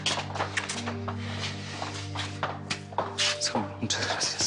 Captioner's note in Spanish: Susurra